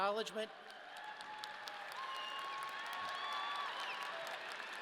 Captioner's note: audience cheering